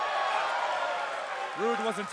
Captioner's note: crowd cheering